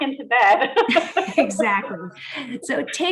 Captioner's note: woman laughs